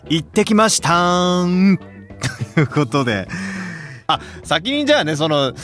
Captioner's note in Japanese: 笑い; 息をのむ音